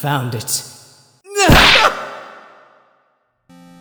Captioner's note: Wellington grunts, Wright screams!